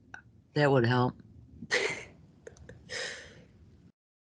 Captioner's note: laughing